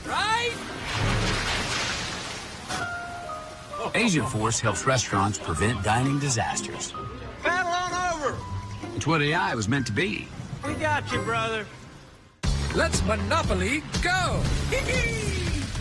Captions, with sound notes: Right? [Car splashing rain water] Agentforce helps restaurants prevent dining disasters. Paddle on over! It's What AI Was Meant to Be. We got you, brother. Let's Monopoly GO! Hehe.